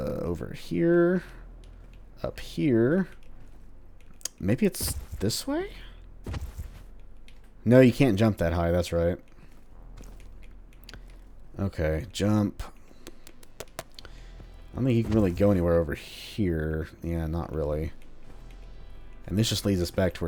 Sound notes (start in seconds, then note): 12.0 thinking sounds